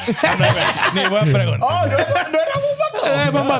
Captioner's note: laughing; speaking In Foreign Language